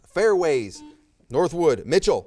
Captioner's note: buzzer